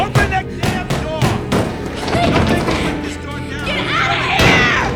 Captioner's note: banging on door